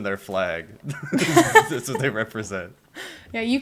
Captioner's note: laughter